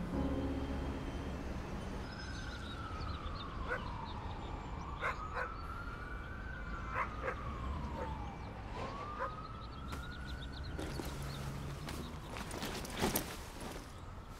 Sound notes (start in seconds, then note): 3.2 sirens blare; 9.1 dogs bark